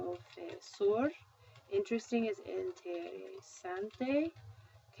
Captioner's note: spanish; spanish